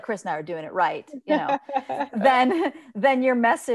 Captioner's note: laughs